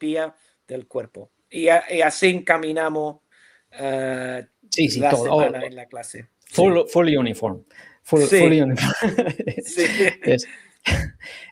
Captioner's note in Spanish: risas